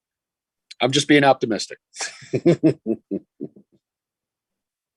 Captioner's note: laughs